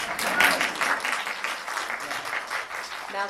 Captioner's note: applause